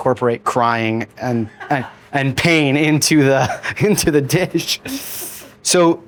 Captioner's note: chuckles